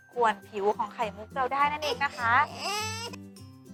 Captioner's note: crying noise